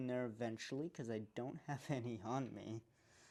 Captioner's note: chuckles in unprepared